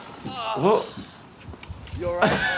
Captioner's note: Steve-O grunts; laughing